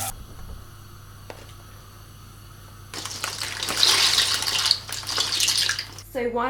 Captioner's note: running water sounds